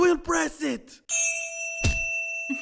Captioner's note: chime; candle giggles